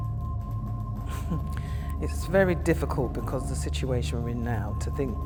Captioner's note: laughs